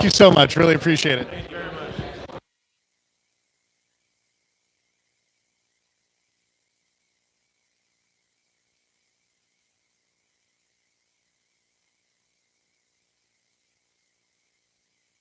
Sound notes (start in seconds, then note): 1.7 no audio